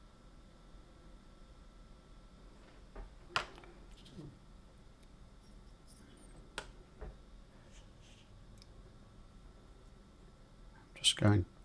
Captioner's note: silence